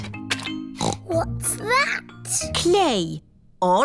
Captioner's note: snorts